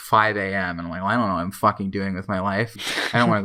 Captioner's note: laughs in background